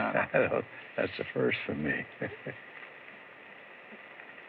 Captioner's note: chuckles